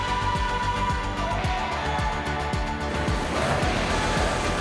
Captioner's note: laughs